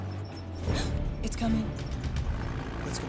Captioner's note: vehicle approaching; gasps